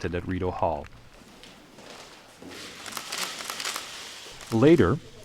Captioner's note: camera shutter sounds